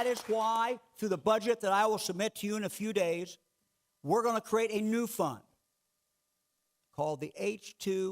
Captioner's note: clapping